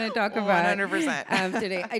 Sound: laughs

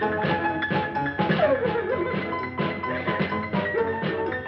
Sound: weeping

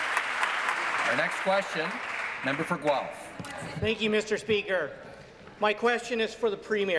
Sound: some Applause

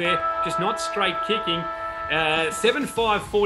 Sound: siren

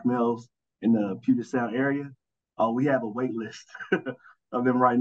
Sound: chuckling

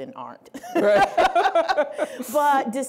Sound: laughing

